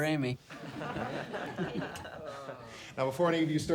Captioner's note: class laughs